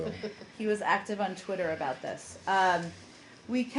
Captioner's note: laughter